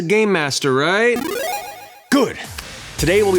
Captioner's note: video game positive sound effect